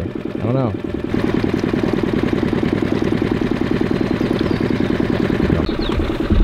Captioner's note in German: Motor brummt weiter